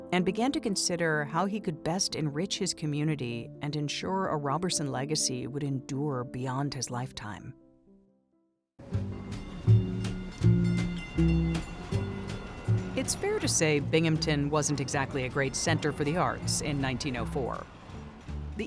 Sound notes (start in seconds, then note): 8.8 spirited music; 9.2 bells clanging